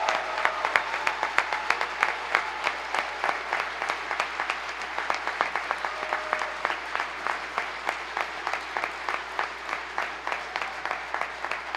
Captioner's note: applause